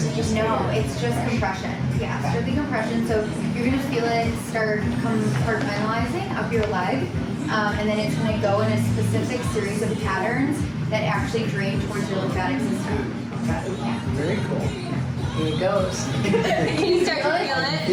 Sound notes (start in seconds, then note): 16.1 laughing